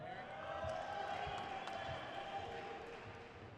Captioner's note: crowd cheers